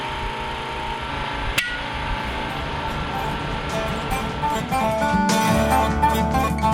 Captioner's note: clank